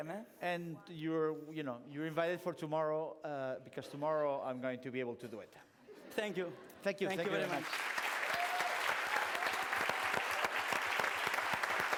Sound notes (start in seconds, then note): 7.3 applause, cheering